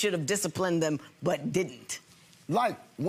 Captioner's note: none